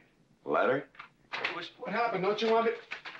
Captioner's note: door opens